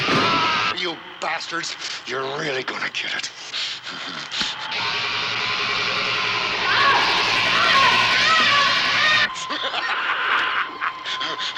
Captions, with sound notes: You bastards! You're really gonna get it. (zapping) (screaming) (laughing)